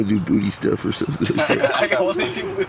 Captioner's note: laughter